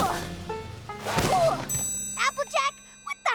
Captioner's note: grunts